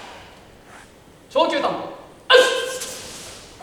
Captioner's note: inhale long, breath short